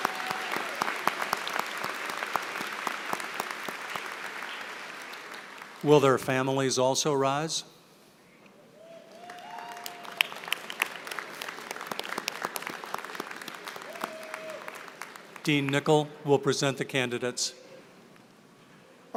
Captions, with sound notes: Will their families also rise? [APPLAUSE] Dean Nicol will present the candidates.